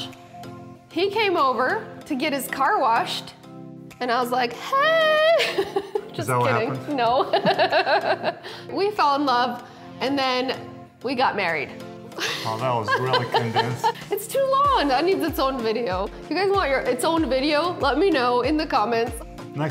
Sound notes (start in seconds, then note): 7.4 laughing; 11.3 laughing